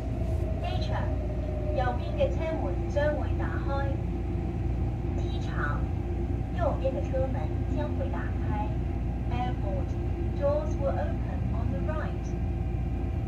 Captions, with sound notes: (Cantonese) 機場，右邊嘅車門將會打開 (Mandarin) 機場，右邊的車門將會打開 Airport. Doors will open on the right.